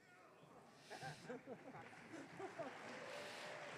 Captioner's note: audience cheering